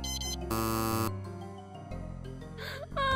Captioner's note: camera beeping; alarm buzzes; gasps and sobs